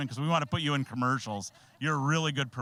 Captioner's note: laughing